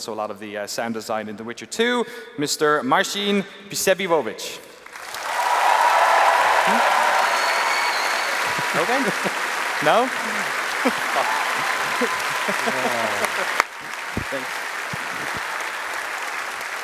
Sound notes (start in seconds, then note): 5.5 applause